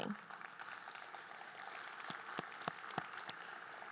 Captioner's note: group applauding